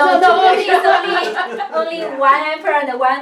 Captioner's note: laughs